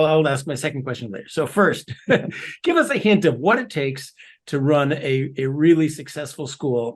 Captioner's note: laugh